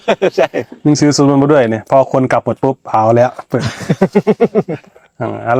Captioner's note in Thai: เสียงหัวเราะ; เสียงหัวเราะ